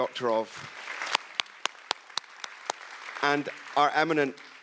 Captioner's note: audience applauds